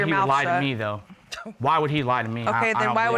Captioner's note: scoffs